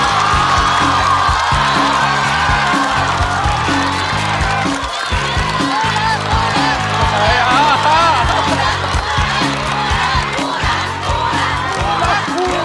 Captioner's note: applause